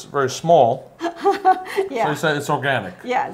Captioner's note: laughs